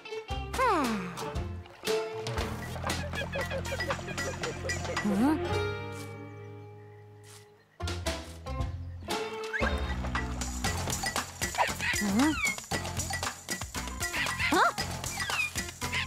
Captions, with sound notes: - Ah... (distant squeaking) Huh? (monkey cries) Huh? (monkey cries) Huh?!